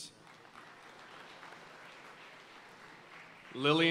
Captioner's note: audience cheering and applauding